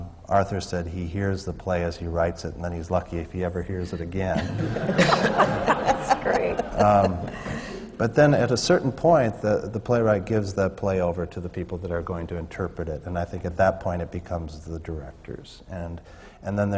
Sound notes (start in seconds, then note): 5.4 laughter